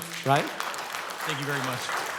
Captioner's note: clapping